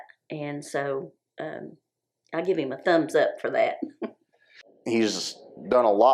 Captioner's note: chuckles